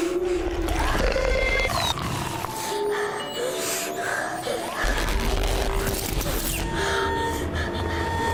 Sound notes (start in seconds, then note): 0.6 woman slurping